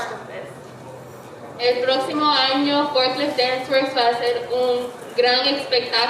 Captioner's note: speaking in foreign language